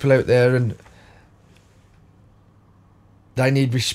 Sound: silence

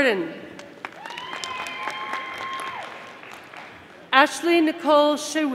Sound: audience applauding

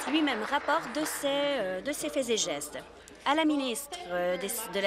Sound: applause

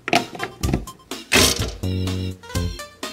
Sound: playful electronic music; toaster clicks; playful electronic music

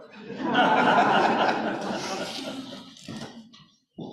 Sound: audience applauding

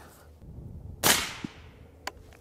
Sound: rifle fires

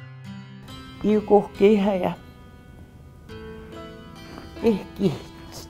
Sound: speaks in the Cree language

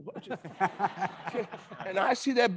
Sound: attendees laughing

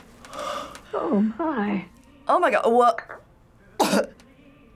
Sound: gags

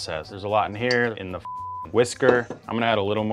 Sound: beeps

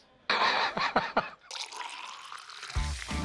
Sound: laughs; pouring

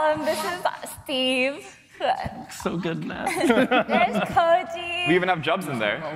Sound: laughter

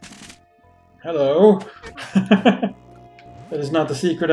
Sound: chuckles

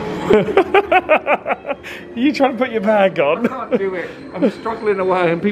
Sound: laughing

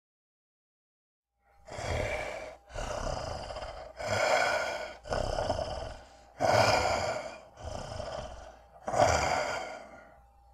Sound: sound of snarl and sniff

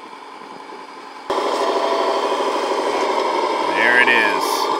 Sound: bulldozer engine revving

